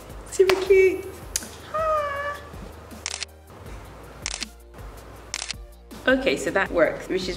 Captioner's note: snap, Snap, Snap, Snap